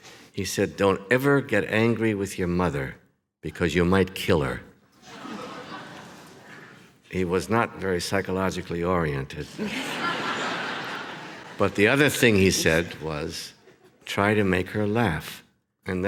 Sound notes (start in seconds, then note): 5.0 audience laughs; 9.4 audience laughs